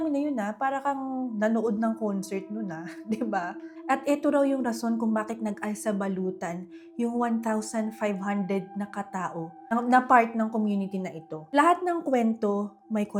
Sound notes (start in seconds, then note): 2.8 laughs